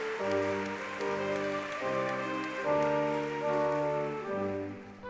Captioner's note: audience clapping